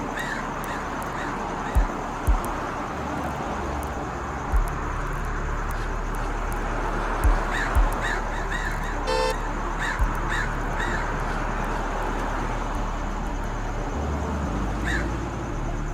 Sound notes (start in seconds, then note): 9.0 horn beeps; 12.2 dramatic music continues